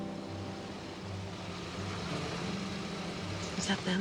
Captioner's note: car pulls up